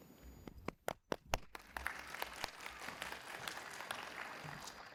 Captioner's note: participants clap